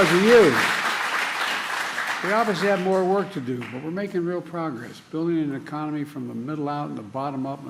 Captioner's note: cheers and applause